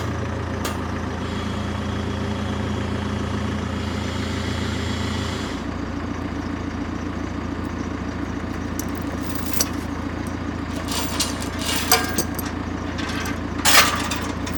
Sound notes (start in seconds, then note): 10.9 chains clanking